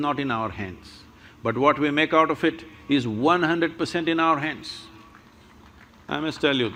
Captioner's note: applause